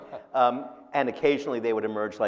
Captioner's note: laughing